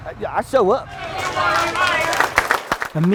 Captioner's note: applause